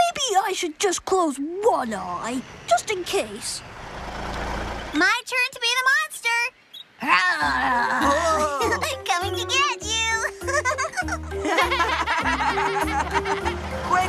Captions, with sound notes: MAYBE I SHOULD JUST CLOSE ONE EYE, JUST IN CASE! MY TURN TO BE THE MONSTER. ( Growling ) COMING TO GET YOU! ( Laughs ) ( Laughter )